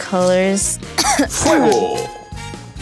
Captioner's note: coughs